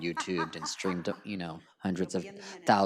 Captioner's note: laughs